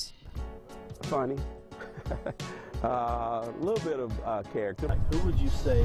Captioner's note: laughs